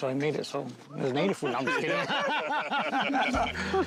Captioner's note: laugh